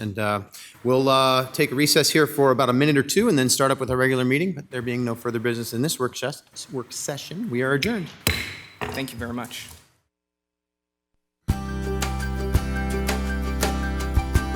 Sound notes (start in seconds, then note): 8.0 gavel bangs; 11.5 cheerful music